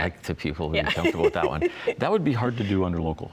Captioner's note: chuckles